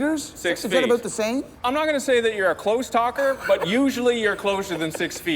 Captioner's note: laughing